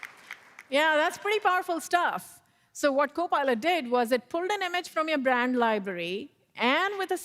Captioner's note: applause